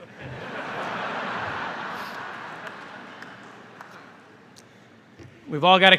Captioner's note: laughter